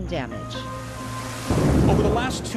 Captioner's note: thunder rolling